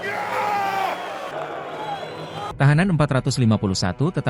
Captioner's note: applause